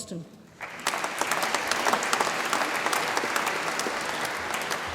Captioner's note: audience applauds